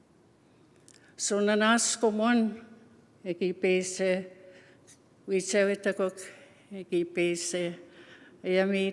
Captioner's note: speaking Indigenous language